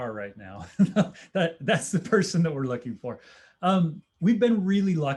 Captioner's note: laughter